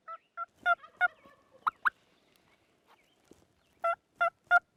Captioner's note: turkey gobbling